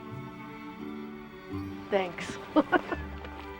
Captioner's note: laughs